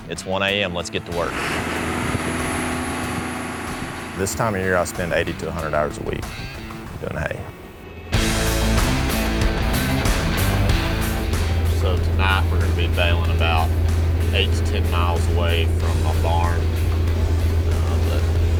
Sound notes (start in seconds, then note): 1.7 baler's engine roaring; 8.1 upbeat music continues